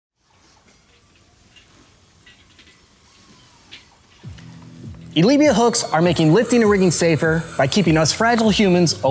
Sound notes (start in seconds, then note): 3.0 metal clanging